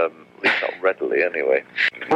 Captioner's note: laughs